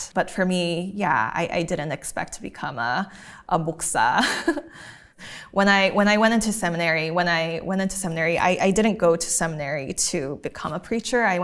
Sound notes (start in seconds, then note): 3.1 talking in a foreign language